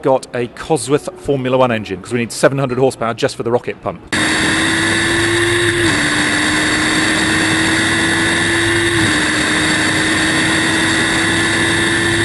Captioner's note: car engine